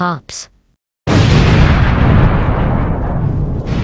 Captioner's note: explosion